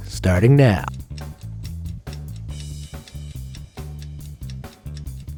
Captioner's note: timer ticking